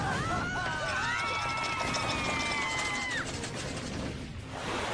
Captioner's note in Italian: urla